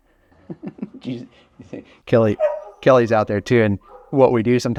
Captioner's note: laughs